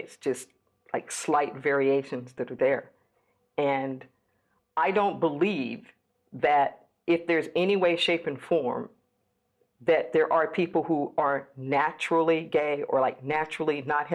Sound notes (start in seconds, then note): none